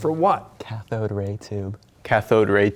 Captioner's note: whispering